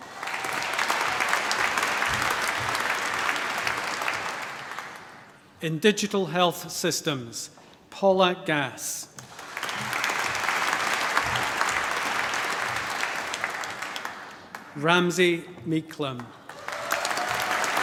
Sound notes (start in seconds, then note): 0.0 applause; 9.2 applause; 16.4 cheering, applause